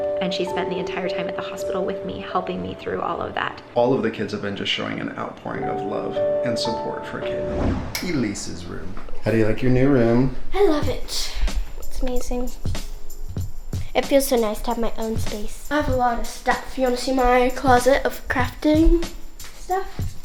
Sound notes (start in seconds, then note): 7.2 wooshing